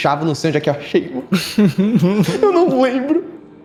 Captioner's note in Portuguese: Risos